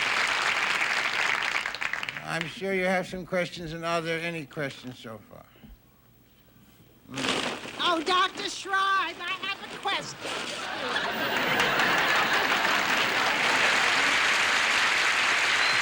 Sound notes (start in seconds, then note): 7.1 rustling; 10.1 audience laughing; 13.1 audience applauding